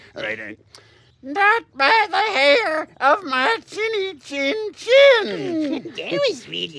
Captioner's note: falsetto